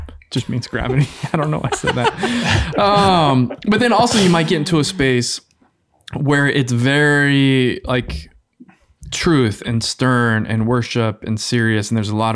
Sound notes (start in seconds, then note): 2.0 all laughing